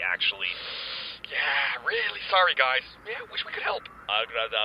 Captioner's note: breaths in